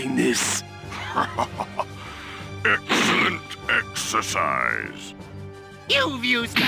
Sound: accomplished laughter

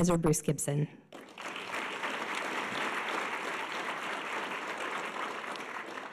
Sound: audience applause

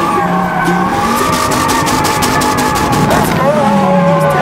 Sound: rev limiter

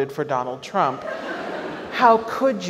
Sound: audience laughs

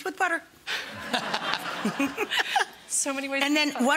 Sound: laughing

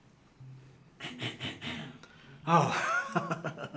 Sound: Leanne clears throat

